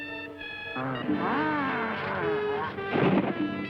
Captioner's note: mummy growls